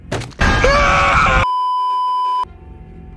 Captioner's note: dramatic sting; beeeeeeeeeeeep